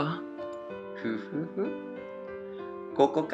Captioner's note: chuckling